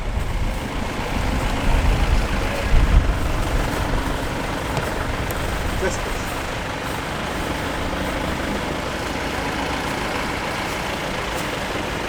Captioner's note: sound of engine